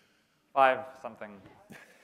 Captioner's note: laughter